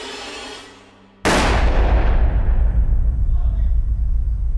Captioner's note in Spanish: Disparo